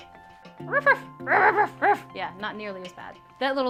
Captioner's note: dog barking sounds